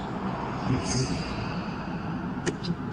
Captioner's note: noisy city; bus driving